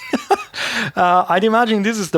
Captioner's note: laughs